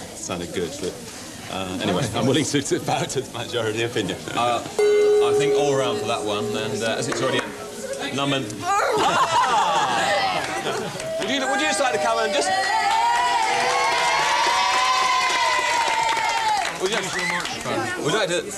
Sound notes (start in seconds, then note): 4.8 hits gong of approval; 15.8 applause